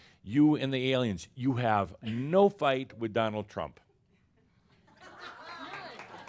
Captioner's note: some chuckles and applause